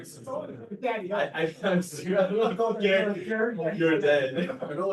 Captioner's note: laughter